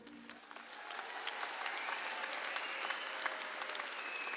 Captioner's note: audience applauds